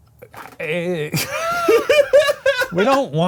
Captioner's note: laughs